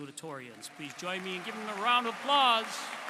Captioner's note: applause